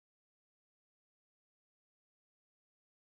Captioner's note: none